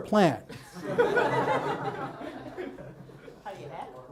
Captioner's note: audience laughs